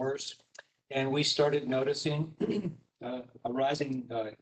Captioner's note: clears throat